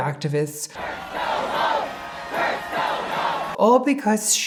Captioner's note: crowd